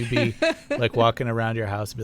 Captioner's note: laughter